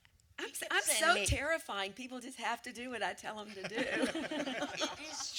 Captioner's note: laughter